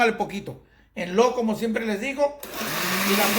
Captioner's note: blending